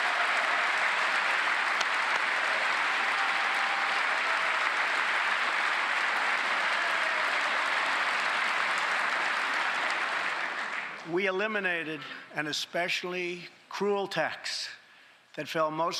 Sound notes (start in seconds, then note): 2.4 cheers and applause; 9.0 applause